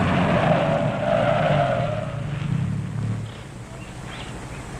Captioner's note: tires squealing